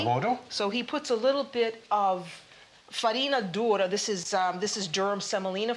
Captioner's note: speaking Italian; speaking Italian